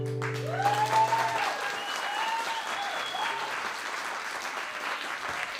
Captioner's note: cheers & applause